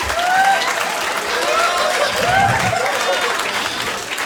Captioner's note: audience applauding